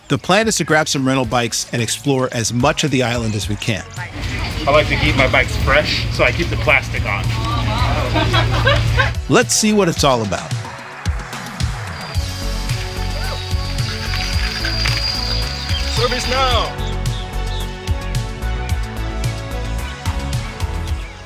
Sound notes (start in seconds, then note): 8.2 people laughing; 11.2 upbeat music; 14.1 tires crunching; 17.0 upbeat music continues